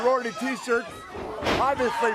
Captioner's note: crowd cheering